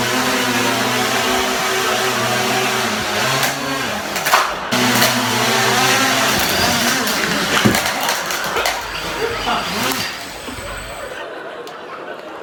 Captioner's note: drone sounds; laughter